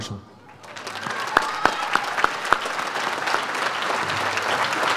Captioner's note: audience applauds